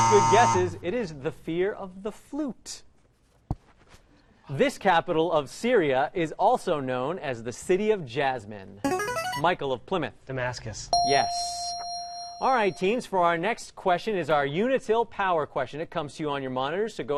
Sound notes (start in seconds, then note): 8.8 ringer; 10.9 ding